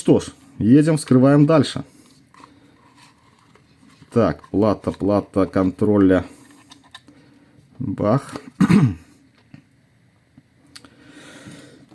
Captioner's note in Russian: откашливается